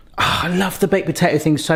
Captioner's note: sighs